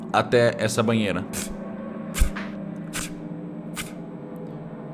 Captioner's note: plurgh plurgh plurgh